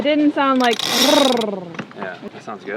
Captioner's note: purrs